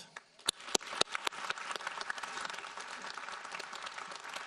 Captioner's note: audience applauding